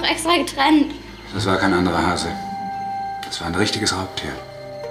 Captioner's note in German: Weinend